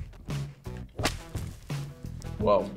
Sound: whip cracks

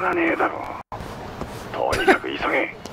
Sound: scoffs

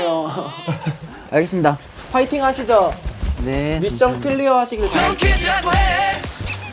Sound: shivering

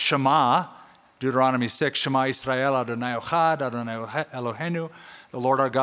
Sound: non-english speech

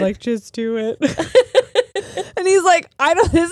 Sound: laughs

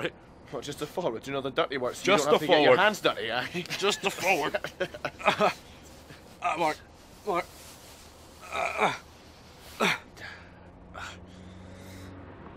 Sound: laughing

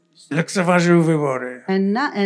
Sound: foreign language

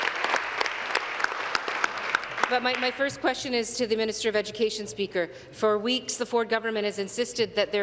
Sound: applause

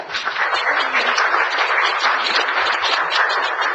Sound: audience applauds

